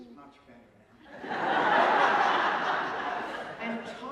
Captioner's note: laughter